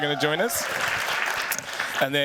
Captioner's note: cheers, applause